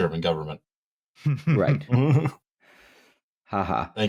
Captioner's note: chuckles